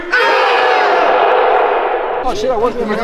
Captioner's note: everyone yells "KIAI!"